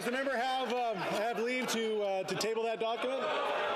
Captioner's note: some Applause